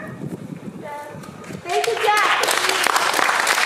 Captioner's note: audience applauding